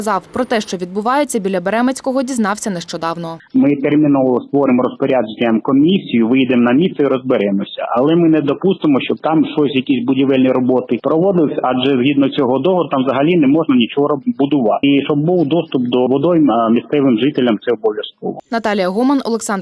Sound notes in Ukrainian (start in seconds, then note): 3.5 телефонна розмова